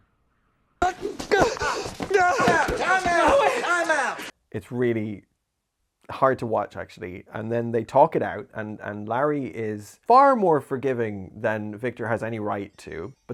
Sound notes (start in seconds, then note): 0.8 sound of crying